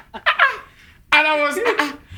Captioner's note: laughing